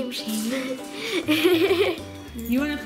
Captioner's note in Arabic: ضحكات